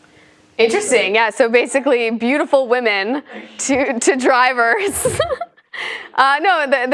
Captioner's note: laugh